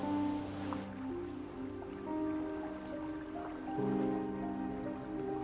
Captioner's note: gentle waves ripple